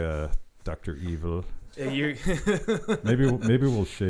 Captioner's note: laughing